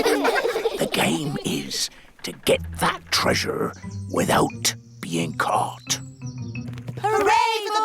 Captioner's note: all giggle; whispers